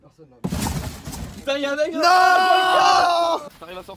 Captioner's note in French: en criant